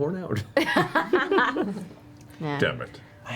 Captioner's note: laughs